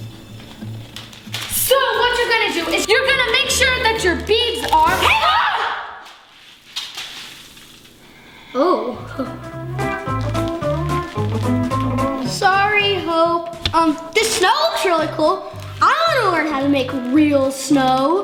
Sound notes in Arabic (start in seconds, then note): 0.0 موسيقى لطيفة; 6.5 حبات ضربت الأرض